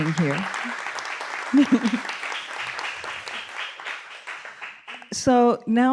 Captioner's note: applause